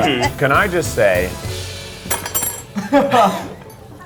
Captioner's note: laughs; laughs